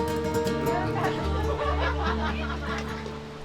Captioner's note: laughter in the background